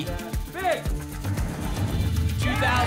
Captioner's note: whoosh